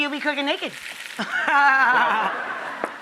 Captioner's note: laughs